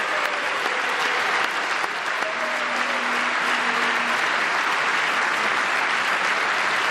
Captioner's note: applause